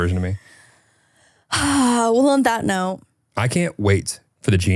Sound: sighs

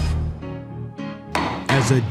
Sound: gavel Bangs

